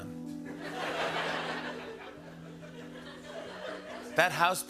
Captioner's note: laughter